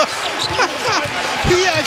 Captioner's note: ha-Ha